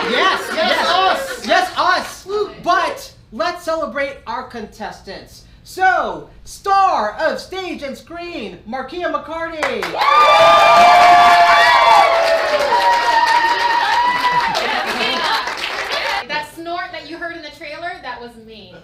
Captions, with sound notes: - Yes, yes, - Yes, us! - Yes, us! But let's celebrate our contestants. So, star of stage and screen, Markeia McCarty! (cheering) - That snort that you heard in the trailer, that was me.